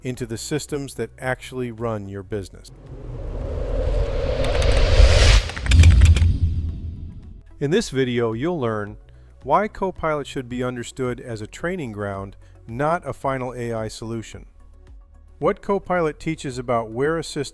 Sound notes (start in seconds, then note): 2.7 air whooshing